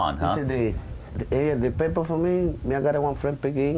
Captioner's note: speaking spanish